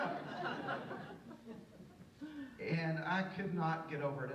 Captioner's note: audience laughs